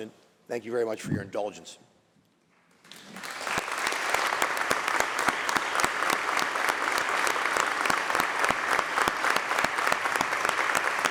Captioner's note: applause